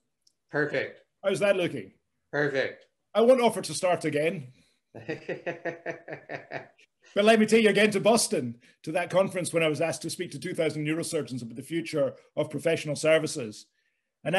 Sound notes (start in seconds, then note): 4.9 laughs